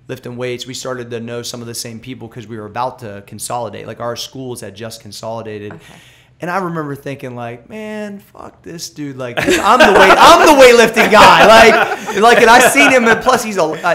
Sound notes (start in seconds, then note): 9.4 laughter